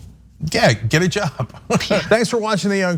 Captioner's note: laugh